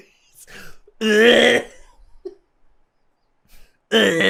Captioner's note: gagging